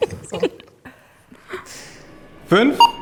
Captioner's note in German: lachen